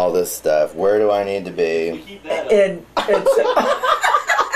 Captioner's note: laughing